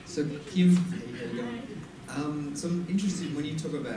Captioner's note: voiceover